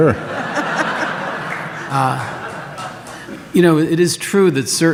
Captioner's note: audience laughs